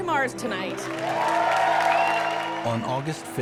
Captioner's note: cheering